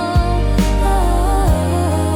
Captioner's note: humming